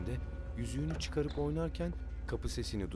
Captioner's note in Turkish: Kapı açılma sesi